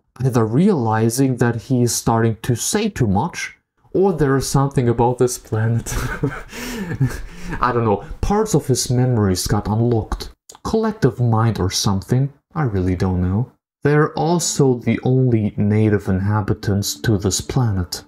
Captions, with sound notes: Either realizing that he is starting to say too much... or there is something about this planet! *laughing* I don't know, parts of his memories got unlocked. Collective mind or something, I really don't know. They are also the only native inhabitants to this planet,